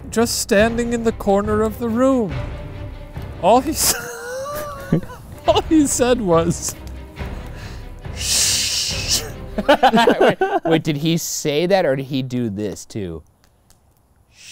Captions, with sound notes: just standing in the corner of the room. All he said was, (sniffles) (shushes) - Wait, did he say that, or did he do this too?